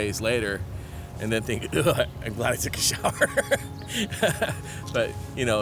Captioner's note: laughs